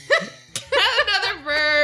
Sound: both laugh

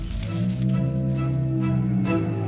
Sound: growling

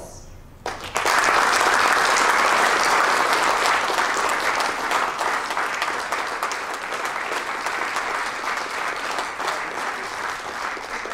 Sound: applaus

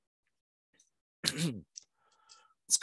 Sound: ahem

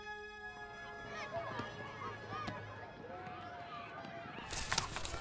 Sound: children playing; paper ruffling

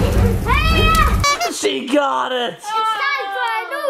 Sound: honking sound effect

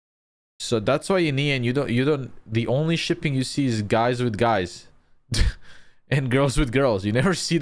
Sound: chuckles

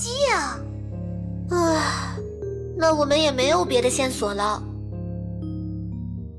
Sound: sighs

